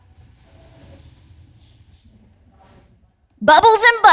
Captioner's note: participant faintly speaking